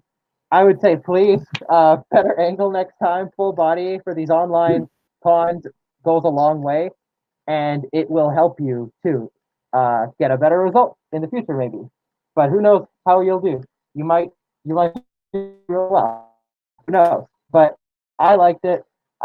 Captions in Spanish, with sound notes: Yo diría, por favor, mejor ángulo la próxima vez. Una toma de cuerpo completo para ver lo que haces. Y también te ayudaría. Quizás para conseguir una mejor calificación en el futuro. Pero quien sabe cómo lo harás Puede que *sonidos de lag* muy bien. *más sonidos de lag* Pero me gusta